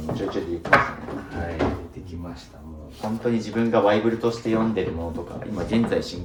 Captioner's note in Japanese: 鼻息